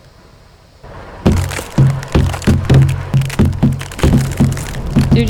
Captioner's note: hitting the glass